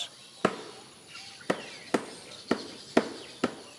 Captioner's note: hammer taps